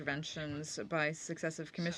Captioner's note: speaking French